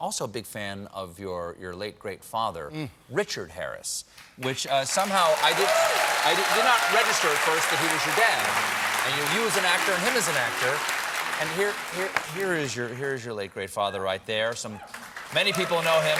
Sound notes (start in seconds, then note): 6.7 applause